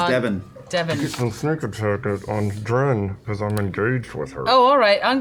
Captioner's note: strained